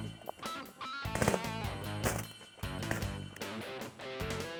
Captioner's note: loud gunfire